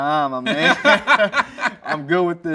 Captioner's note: both laughing